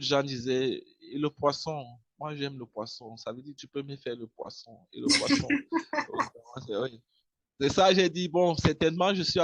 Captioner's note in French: rire